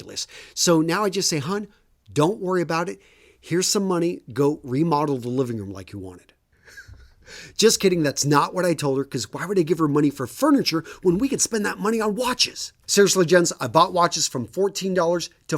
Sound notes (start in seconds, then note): 6.6 laughs